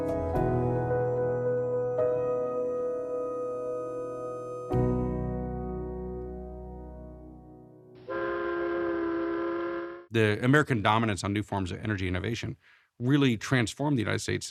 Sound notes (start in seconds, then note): 0.0 dramatic music; 8.0 ship horn whistling